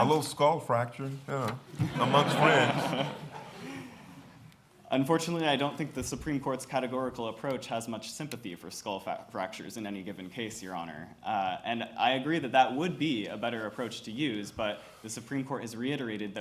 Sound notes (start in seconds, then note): 1.8 laughter